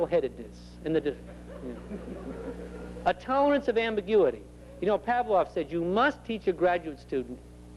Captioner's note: laughter